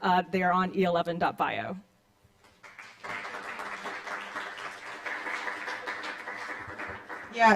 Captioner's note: applause